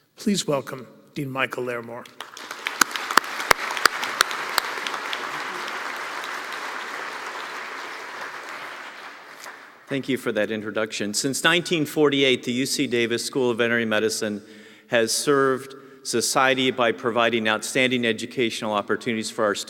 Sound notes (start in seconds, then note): 2.1 applause